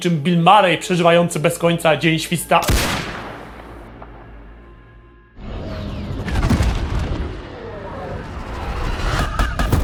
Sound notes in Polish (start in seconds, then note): 2.7 wystrzał